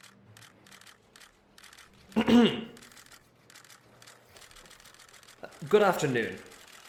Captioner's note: cameras flashing; clears throat